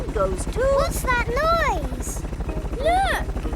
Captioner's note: helicopter approaching